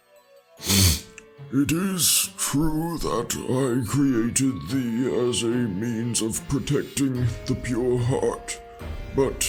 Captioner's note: sniffs